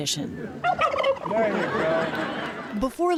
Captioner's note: laughter